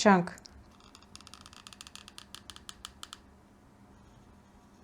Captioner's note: glue gun creaks like a door